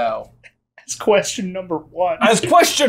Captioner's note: laughing